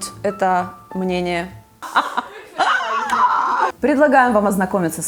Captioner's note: laughter